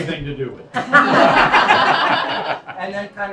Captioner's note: laughing